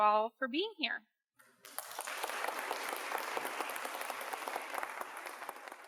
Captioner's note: applause